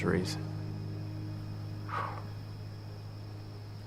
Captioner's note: exhales